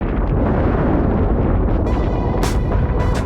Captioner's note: thunder